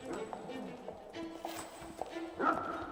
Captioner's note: chain rattles